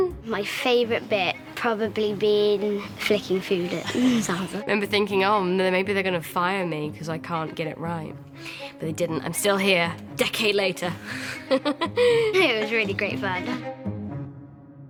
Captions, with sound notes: My favorite bit... probably been flicking food at Sansa. I remember thinking, "Oh, maybe they're gonna fire me 'cause I can't get it right." But they didn't, I'm still here. Decade later. (LAUGHS) It was really great fun.